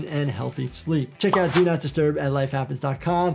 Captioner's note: graphic pops